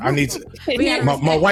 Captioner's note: laughing